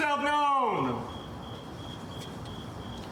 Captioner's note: crickets chirping